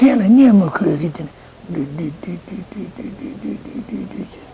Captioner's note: mimics truck sound